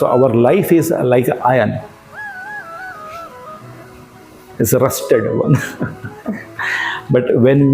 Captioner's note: laugh